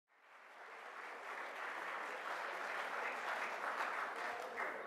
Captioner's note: clapping